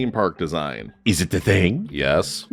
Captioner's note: doing a Thierry Coup voice